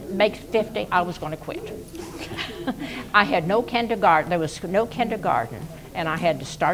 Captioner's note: laughs